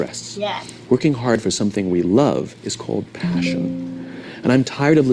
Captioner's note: computer sound